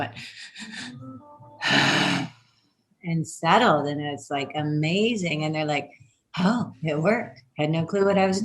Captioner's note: heavy sigh